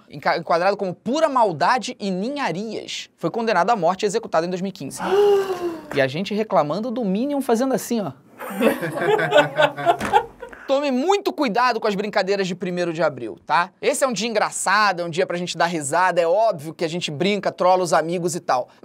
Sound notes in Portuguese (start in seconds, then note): 5.0 equipe faz som de surpresa; 8.4 risadas